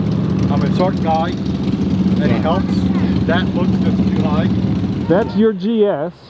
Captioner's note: engine revving